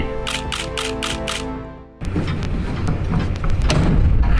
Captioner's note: camera shutter clicking